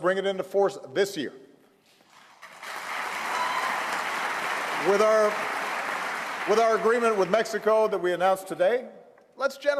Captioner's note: applause